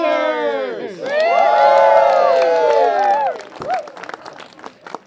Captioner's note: cheering